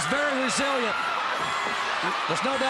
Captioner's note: crowd cheering